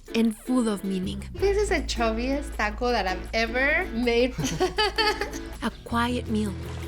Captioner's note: laughs